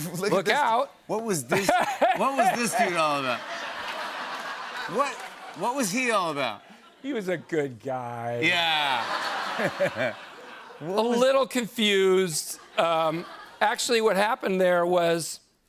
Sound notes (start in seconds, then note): 1.5 laughs; 3.3 laughter; 8.6 laughter